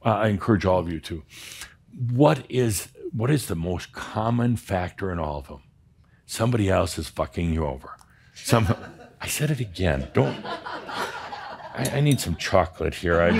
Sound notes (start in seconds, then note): 8.3 some chuckles; 9.9 more chuckles